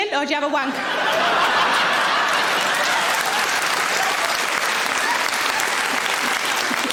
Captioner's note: audience laughing; audience applauds